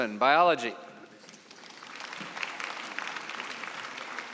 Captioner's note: applause